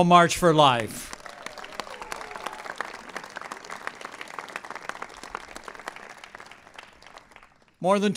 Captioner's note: applause